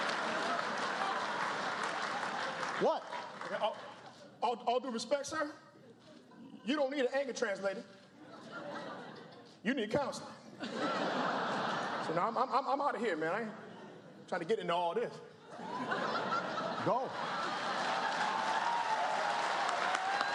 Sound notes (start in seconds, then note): 0.0 applause; 10.5 laughter